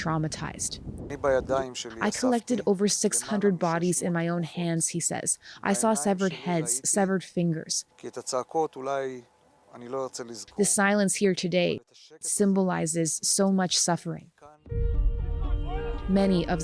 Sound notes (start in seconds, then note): 3.6 speaking alternate language